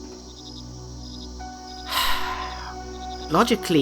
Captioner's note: Thomas sighs